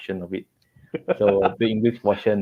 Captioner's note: laughter